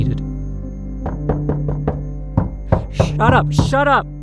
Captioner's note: more knocks at the door